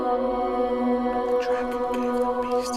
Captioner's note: muttering